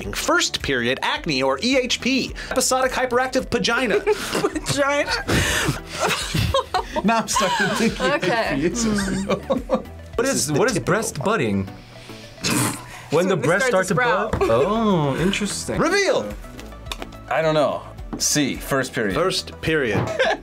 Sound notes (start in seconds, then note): 4.0 laughs; 5.7 both laugh; 8.6 laughs; 20.0 laughs